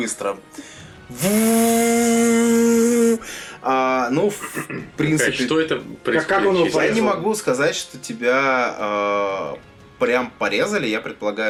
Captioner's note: chainsaw sounds